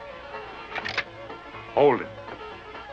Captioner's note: gun cocking